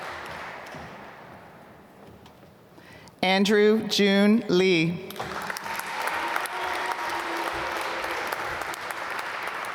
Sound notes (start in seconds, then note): 5.1 applause